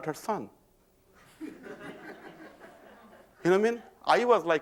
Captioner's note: laughter